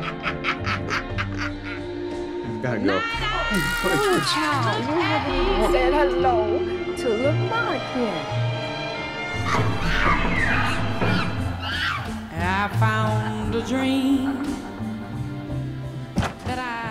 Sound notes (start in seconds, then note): 0.1 Mrs. Webb cackling; 11.6 monkeys screeching